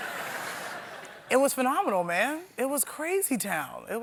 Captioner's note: laughter